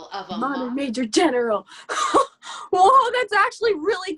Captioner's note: laughs